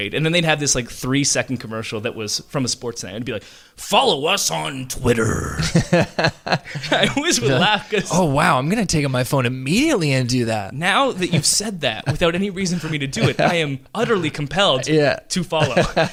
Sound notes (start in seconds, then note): 5.1 laughs